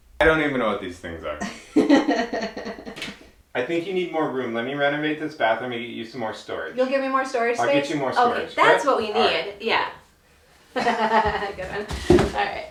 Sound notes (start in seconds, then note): 10.7 chuckles